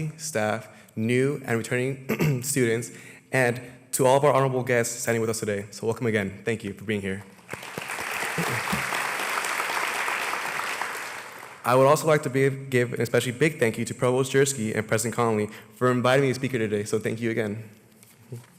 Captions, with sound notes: STAFF, NEW AND RETURNING STUDENTS, AND TO ALL OF OUR HONORABLE GUESTS SITTING WITH US TODAY. SO WELCOME AGAIN. THANK YOU FOR BEING HERE. [ APPLAUSE ] I WOULD ALSO LIKE TO GIVE A BIG THANK YOU TO PROVOST JERSKY AND PRESIDENT CONOLEY FOR INVITING ME TO SPEAK HERE TODAY.